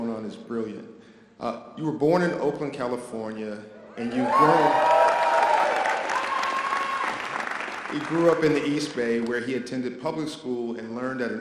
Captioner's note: audience applause